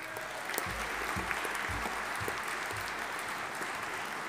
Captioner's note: audience applauding